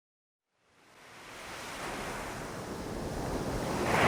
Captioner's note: ocean crashing